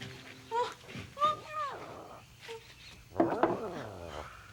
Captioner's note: Stink whimpers; Tasha babbles